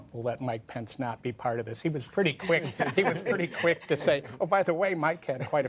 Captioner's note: laughter